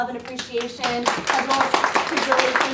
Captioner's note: applauding